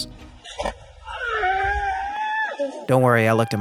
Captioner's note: body thuds; person screams